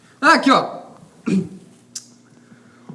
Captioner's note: clears throat